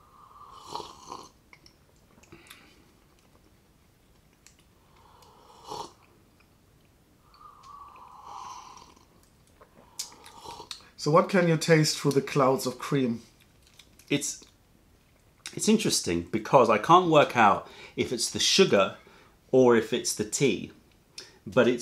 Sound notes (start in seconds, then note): 7.2 sips tea